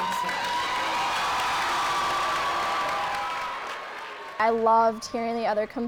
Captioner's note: raucous applause and cheering